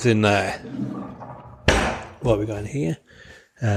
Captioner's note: drawer clunking shut